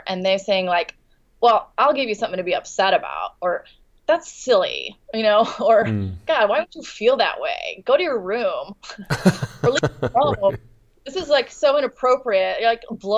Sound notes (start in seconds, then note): 9.1 laughs